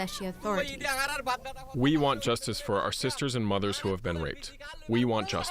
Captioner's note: through translator